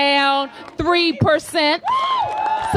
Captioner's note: applause